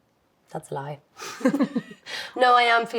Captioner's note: both laughing